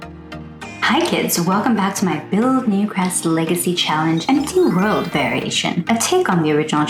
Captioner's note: finger wave magic chimes sfx